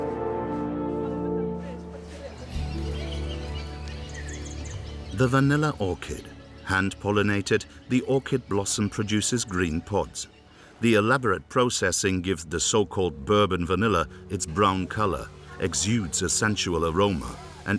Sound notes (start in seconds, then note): 2.3 birds chirping; 2.3 gentle music